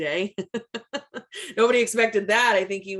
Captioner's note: laughs